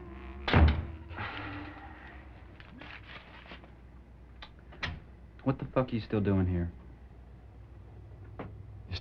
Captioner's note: sighs